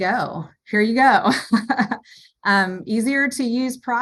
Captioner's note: chuckles